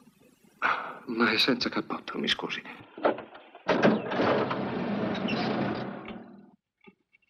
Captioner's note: engine starts